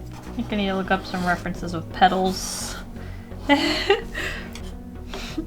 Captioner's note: giggles